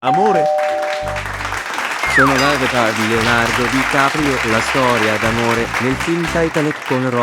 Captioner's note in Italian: Applauso